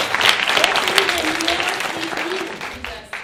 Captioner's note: speaking spanish